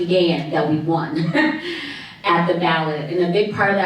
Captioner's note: chuckles